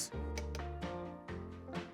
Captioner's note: soft upbeat music; spoon tapping